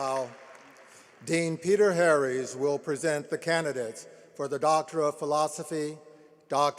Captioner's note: applause